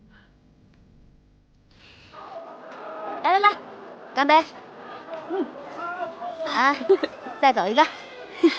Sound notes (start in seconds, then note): 4.2 cheers